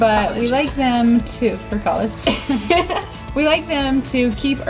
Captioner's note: both laugh